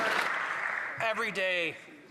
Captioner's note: some Applause